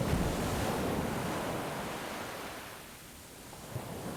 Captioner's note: waves crashing